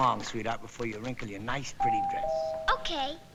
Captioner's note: door bell ringing